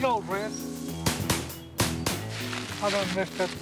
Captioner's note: shots firing